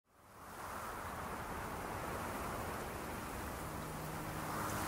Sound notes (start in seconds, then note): 0.5 waves crashing